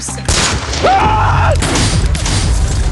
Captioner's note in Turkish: bağırma